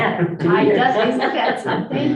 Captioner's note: group laughing